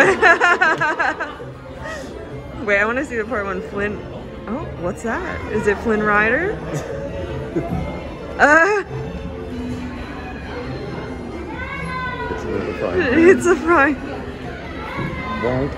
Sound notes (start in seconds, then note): 0.0 laughing; 6.6 laughing; 7.8 chuckles; 10.6 crowd chattering